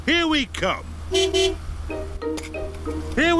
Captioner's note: honks horn